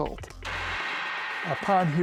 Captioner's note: gavel bangs